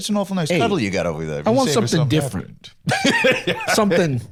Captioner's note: laughs